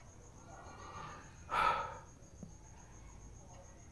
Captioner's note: sighs